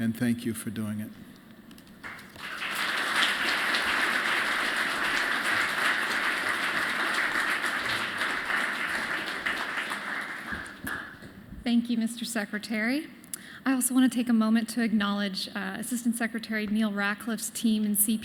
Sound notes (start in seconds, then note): 6.4 applause